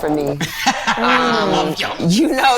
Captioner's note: laughing